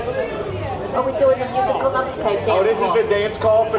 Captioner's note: people chattering in background